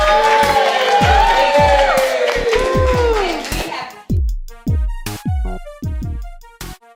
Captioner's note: applauding